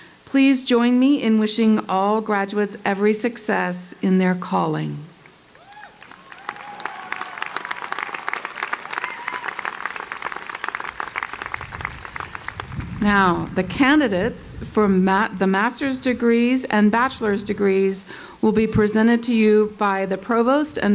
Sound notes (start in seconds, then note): 5.8 applause